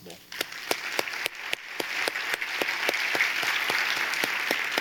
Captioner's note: audience applauding